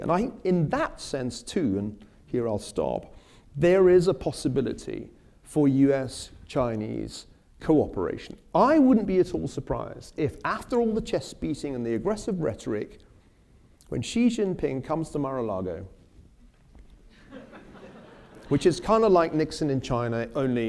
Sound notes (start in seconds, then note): 17.1 laughter